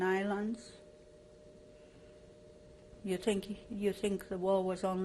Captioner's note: pauses for 3 seconds